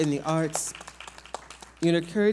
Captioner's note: audience applauds